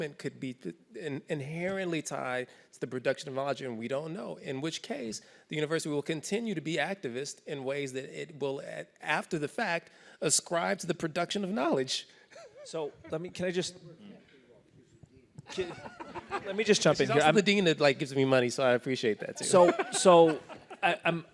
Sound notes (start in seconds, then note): 19.3 laughter